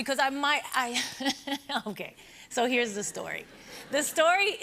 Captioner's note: laughs